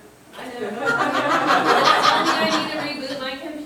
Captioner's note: group laughing